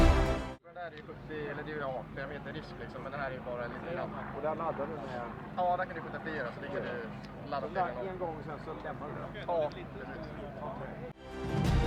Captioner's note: people speaking